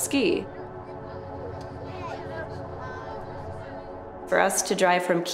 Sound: kids chatter

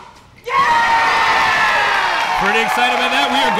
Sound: audience cheering

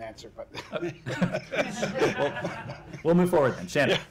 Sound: laughter

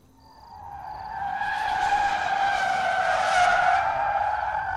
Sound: tires screeching

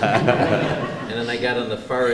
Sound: laughter

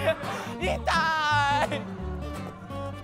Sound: crying

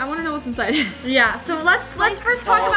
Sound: laughs

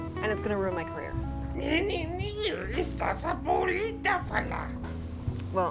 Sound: alien Language Sounds

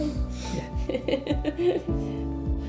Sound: laughing

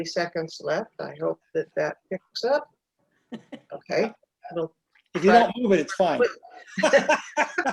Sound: laughter

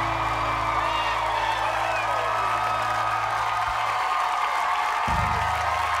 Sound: applause

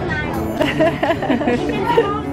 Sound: laugh

